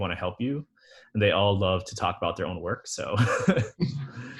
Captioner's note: laughs